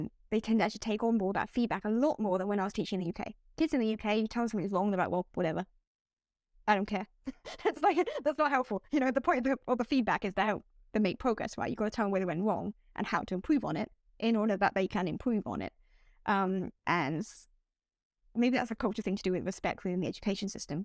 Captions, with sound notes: they tend actually take on more that feedback a lot more than when I was teaching in the uk. Kids in the uk you tell 'em something's wrong, they're like, well, whatever, I don't care. [laughter], that's like, that's not helpful. You know, the point of the or the feedback is they help, they make progress, right? You gotta tell 'em whether they went wrong and how to improve on it in order that they can improve on it. Um, and maybe that's a culture thing to do with respecting the education system